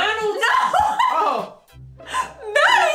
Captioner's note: laughing